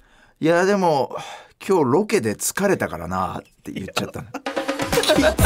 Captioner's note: sigh